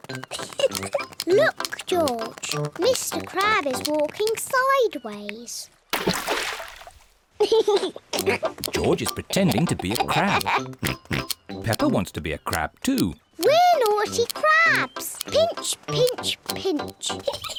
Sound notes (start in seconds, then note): 0.2 giggles; 7.4 laughs